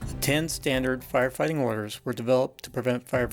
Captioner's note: voiceover